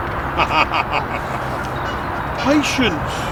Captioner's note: laughs